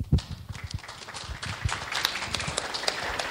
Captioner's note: clapping